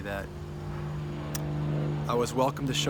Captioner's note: plane engine rumbling